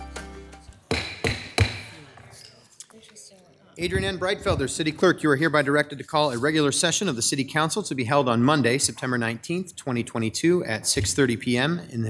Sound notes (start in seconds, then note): 0.8 gavel banging; 1.8 crowd chattering